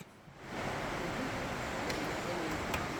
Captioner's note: sound of rushing water